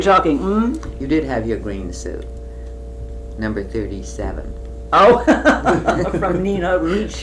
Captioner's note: laughter